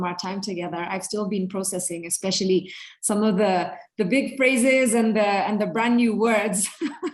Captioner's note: laughs